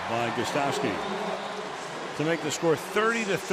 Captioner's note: pa announcement